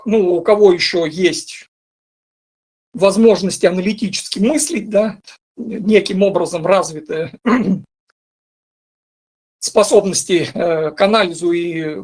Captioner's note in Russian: откашливается